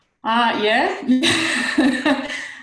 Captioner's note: laughs